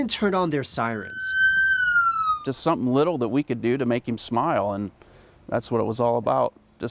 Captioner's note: sirens